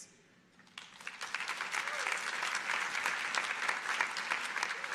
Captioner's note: audience applauding